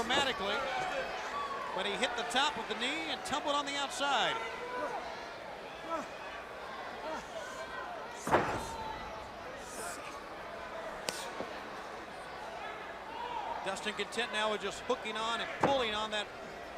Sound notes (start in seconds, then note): 5.2 crowd chatter